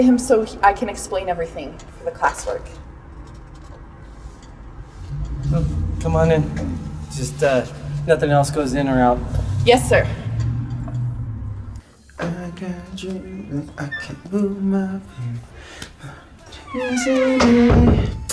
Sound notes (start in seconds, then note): 12.3 humming